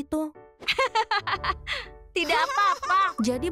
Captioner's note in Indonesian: Hogi tertawa